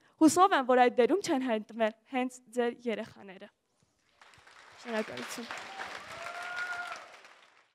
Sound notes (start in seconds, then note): 5.6 applause